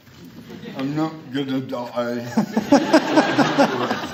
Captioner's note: laughter